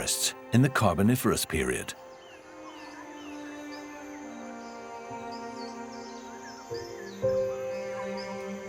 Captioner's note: birds and insects chirping